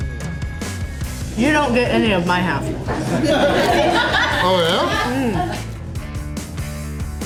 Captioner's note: crowd laughter